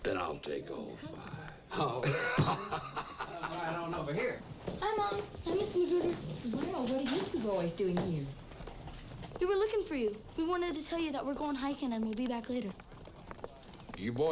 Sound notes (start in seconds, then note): 1.6 laughing